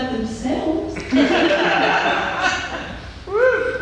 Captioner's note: laughter